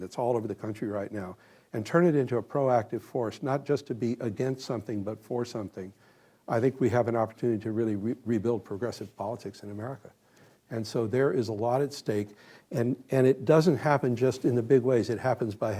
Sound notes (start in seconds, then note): none